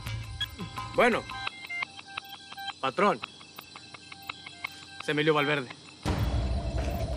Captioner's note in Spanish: suena el celular